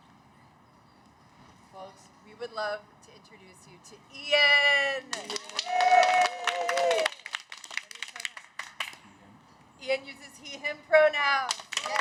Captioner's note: cheers